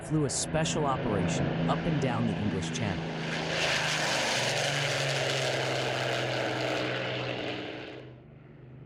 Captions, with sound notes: flew a special operation up and down the English Channel. [airplane whirring]